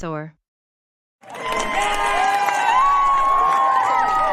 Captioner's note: applause and cheering